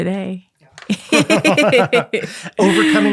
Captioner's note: both chuckling